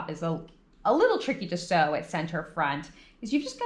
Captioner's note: none